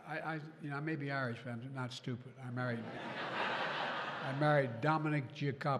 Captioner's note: laughter